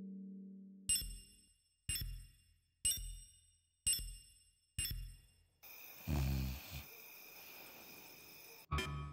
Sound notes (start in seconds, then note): 5.7 snorting